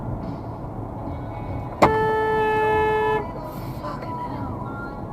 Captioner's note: car horn